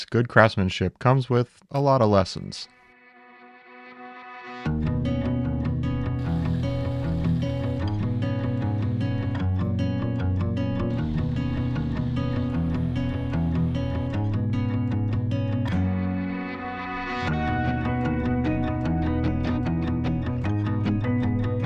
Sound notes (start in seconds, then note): 2.8 ambient music; 5.0 gentle guitar music; 6.1 machines whirring; 17.4 gentle guitar music continues